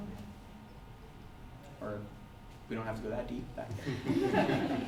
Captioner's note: audience laughter